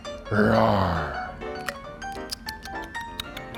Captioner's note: smacking lips